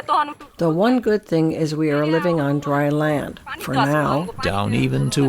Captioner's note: through translator